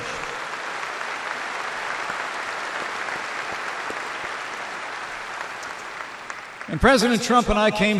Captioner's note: applause